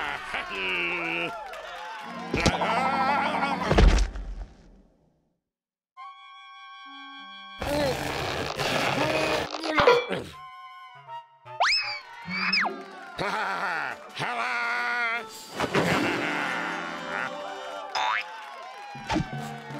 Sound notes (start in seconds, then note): 3.7 thud; 7.9 straining; 15.7 cheers and applause